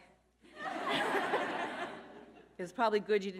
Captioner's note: all laughing